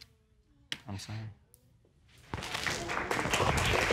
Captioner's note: audience applauding